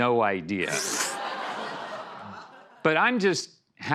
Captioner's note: laughter